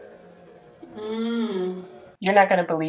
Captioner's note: moaning